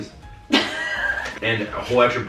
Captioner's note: laughing